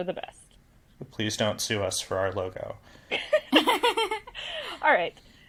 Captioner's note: laugh